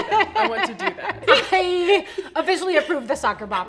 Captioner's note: laughs